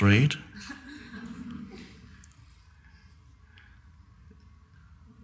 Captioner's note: audience chuckling